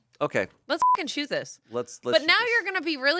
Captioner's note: beep